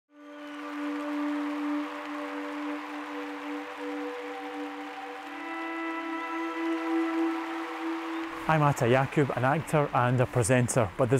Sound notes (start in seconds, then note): 0.7 applause